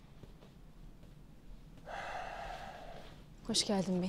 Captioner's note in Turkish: Nefes sesi